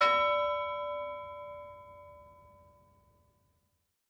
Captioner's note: bell ringing